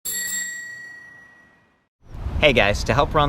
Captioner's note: bike bell rings